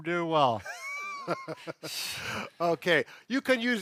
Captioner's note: laughing